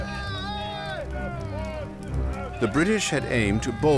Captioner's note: crowd shouting